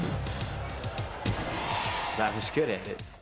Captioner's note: crowd cheering; energetic music